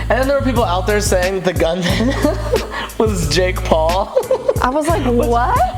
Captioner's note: laughing